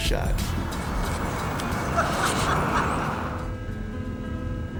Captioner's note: laughs